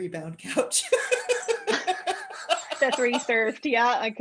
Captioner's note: laughter